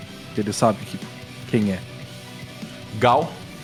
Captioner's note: none